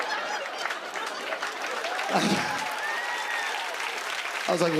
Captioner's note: laughter; cheers and applause